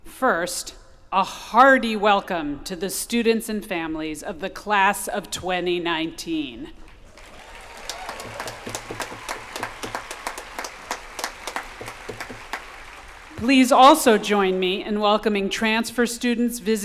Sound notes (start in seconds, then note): 7.0 applause